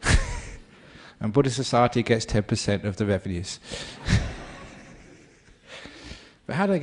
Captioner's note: laughter